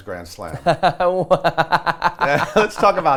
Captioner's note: laughs